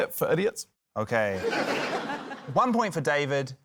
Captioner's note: laughter